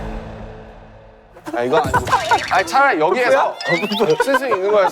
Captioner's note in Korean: 빵 터짐